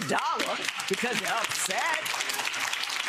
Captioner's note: audience applauds